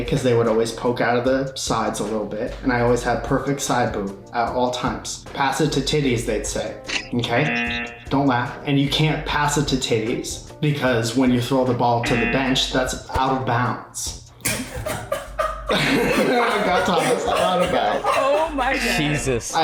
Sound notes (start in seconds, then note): 7.4 buzzer; 14.4 laughs